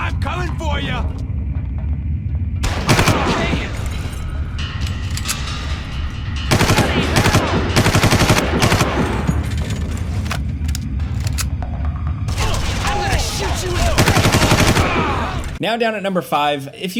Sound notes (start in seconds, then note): 2.6 gun firing; 9.9 gun reloads; 12.3 gun firing